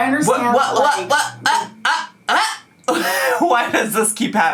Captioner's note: laughing